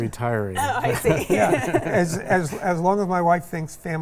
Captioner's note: all laugh